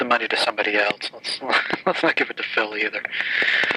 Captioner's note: laughing